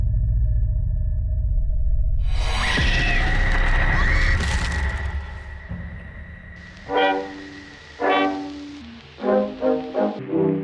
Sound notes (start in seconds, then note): 2.1 sudden ominous music; 2.7 Paula screaming; 4.6 flesh squelching; 6.6 cheerful 1920's music